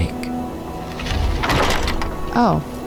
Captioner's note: heavy door opening and closing